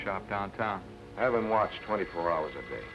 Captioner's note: phone ringing